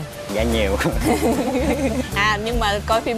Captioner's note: laughing